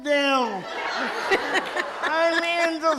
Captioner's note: audience laughs